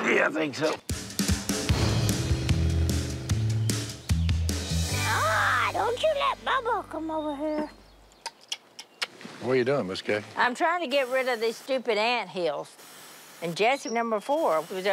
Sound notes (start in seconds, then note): 0.9 upbeat music; 4.1 Miss Kay in baby voice; 7.3 clucking